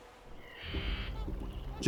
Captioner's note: bird squawks